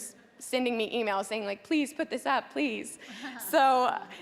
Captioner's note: chuckling